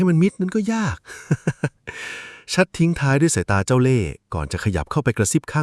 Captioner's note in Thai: เสียงหัวเราะ